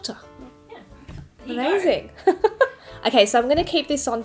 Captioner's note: laughs